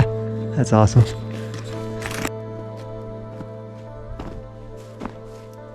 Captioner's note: footsteps crunching